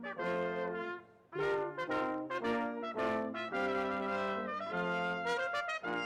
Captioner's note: none